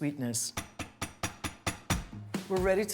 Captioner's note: tapping